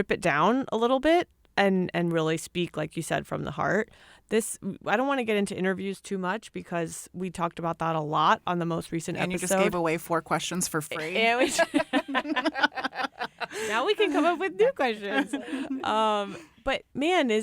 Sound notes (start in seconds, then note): 13.6 laughter